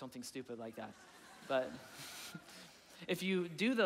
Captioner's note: chuckling; audience laughing